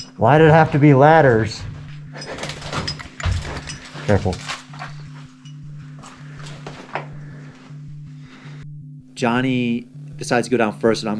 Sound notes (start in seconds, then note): 2.0 scuffling and cracking; 5.1 cracking and scuffling; 5.8 heavy breathing